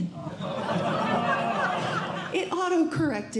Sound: audience Laughing

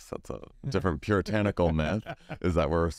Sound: laughs

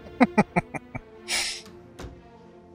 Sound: laughing

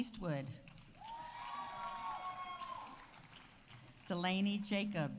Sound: audience applauding; audience cheering

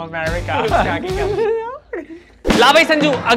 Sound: chuckles

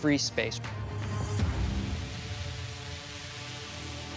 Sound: rotors humming

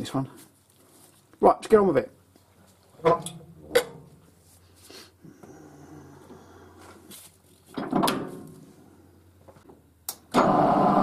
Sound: mechanical noise

